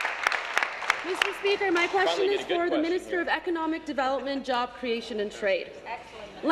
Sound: applause

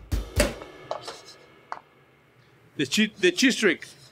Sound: jazzy beat; tortilla falling into pan

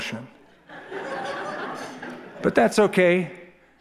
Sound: laughter

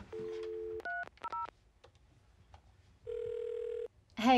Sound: phone key pad beeps

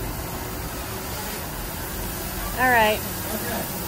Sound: drone Whirring

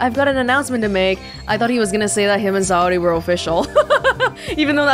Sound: chuckles

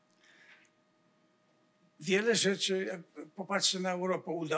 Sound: foreign language

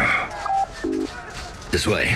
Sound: droid gives affirmative

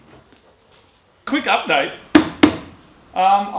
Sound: thuds

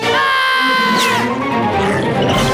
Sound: screams; growling; screaming

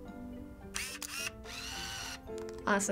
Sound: snaps camera; film whirs

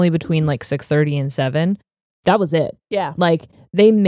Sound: none

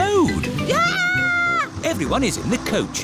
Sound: shrieks

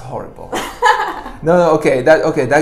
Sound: laughs

